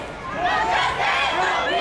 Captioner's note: crowd